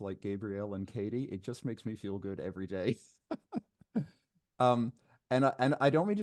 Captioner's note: laughs